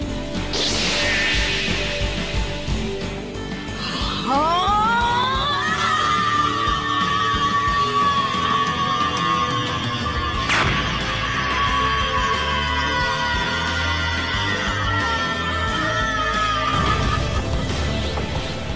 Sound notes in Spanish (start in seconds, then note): 3.8 Gohan suspirando enfurecido, y gritando al transformándose en SSJ2